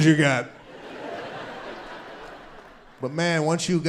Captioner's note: audience laughing